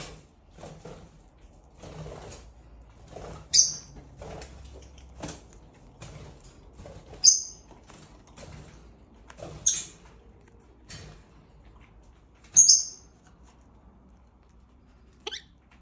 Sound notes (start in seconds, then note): 2.4 rustling noises in background; 9.3 bird chirping